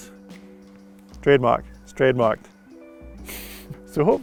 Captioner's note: giggles